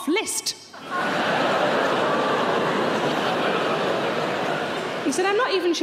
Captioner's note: audience laughing